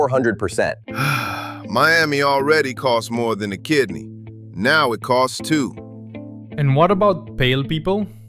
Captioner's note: sigh